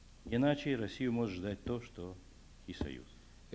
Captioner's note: non-english speech